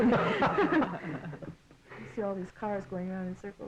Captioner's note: laughing